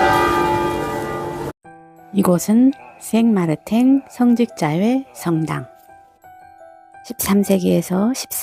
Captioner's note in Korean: 종소리